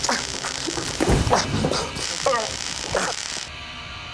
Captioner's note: zapping